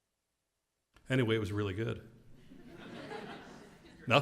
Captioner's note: laugh